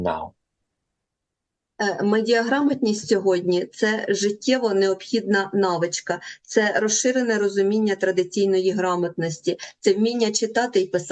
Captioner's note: foreign language